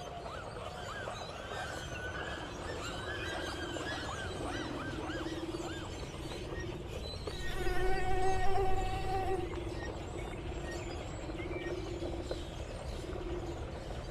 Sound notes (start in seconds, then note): 7.4 mosquito buzz